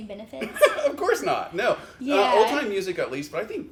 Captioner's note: laughs